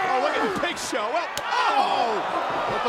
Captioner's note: skin slapping